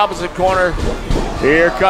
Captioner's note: heavy footsteps